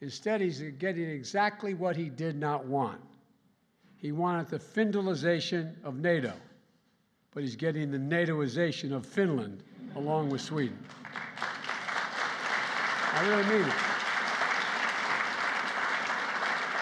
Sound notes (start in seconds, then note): 9.7 laughter; 10.2 applause